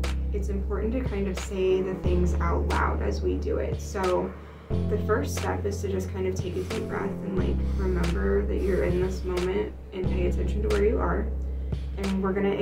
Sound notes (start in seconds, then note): 4.3 breathing noises; 7.6 breathing noises